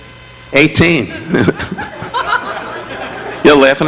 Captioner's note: audience laughing; Don chuckling